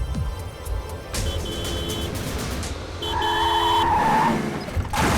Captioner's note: tractor horn beeping